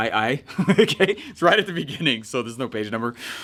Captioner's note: chuckles